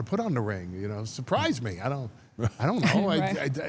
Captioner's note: laugh